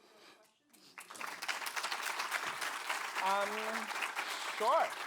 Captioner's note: applause